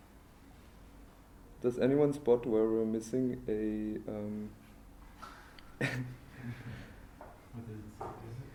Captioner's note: laughter